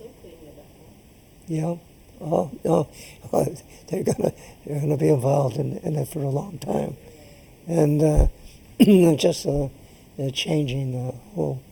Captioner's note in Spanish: laughs